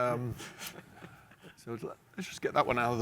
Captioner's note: panelists laughing